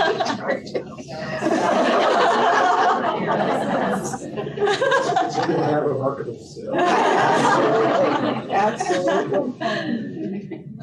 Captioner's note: laughter